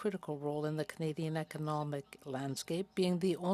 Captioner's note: speaking French